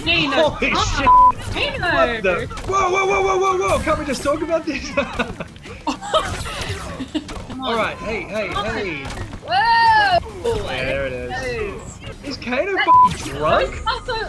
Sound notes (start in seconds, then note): 4.8 chuckles; 5.8 Jessica laughs